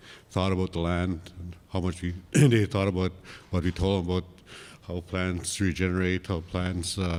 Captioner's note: coughs